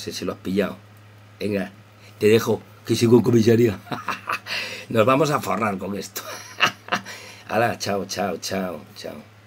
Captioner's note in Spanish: risas